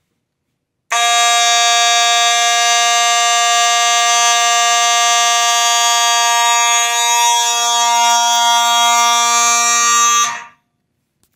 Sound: constant horn/buzzer sound

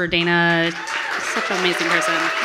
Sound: audience applauding

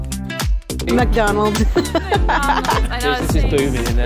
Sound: laughs

